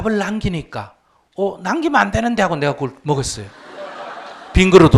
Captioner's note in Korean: 청중 웃음